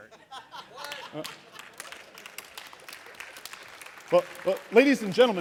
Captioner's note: laughter, applause